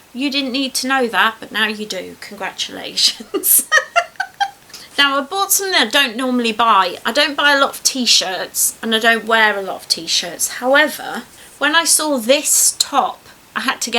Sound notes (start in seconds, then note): 3.1 laughs